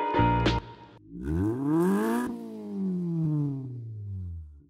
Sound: engine revs

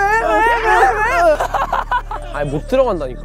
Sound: puhahaha

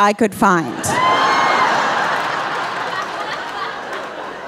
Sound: audience laughing

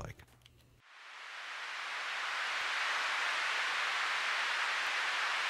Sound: sound whooshing

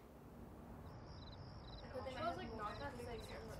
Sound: crickets chirping; overlapping chatter

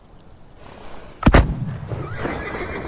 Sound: gun shot; horses neighing

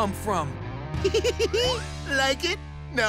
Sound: giggling

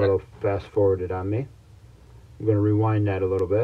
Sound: video playing in background

